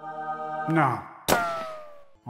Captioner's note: shooting noise